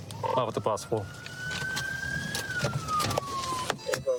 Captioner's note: sirens blaring